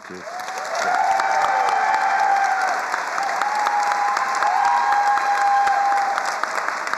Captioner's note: attendees cheering and applauding